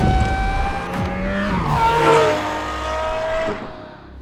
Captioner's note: engine roars